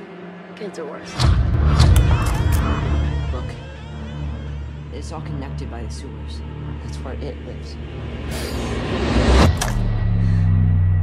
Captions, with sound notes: kids are worse. *click* Look, it's all connected by the sewers, that's where "It" lives. *click*